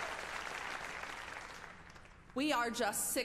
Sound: applause

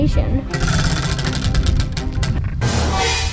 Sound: wheel clanks on metal axle; drums clang

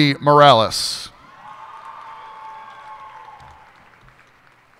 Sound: cheers and applause

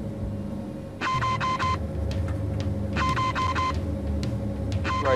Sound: computer beeps

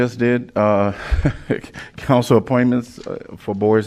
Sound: laughter

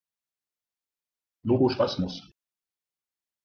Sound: fast Pronunciation

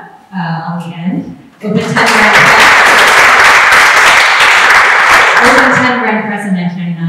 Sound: applause

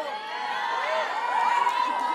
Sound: audience cheers and applauds; graduates chant

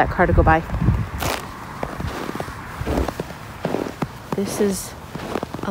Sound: softer crunching sound

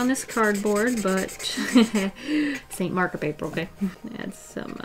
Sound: laughs

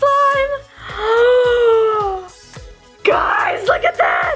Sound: gasp

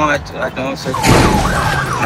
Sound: crash

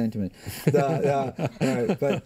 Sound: laughter

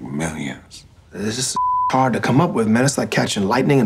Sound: beep

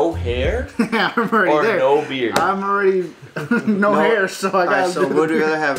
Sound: laughs

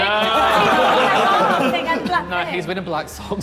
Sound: Sidemen laughing

